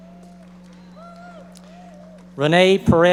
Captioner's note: audience members applauding